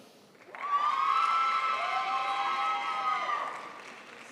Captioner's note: crowd applauds